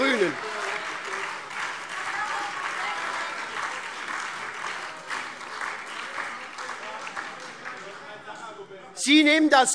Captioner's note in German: Beifall SPD - Lachen und Zurufe BÜNDNIS 90/DIE GRÜNEN